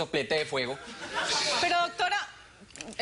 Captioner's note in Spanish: Risas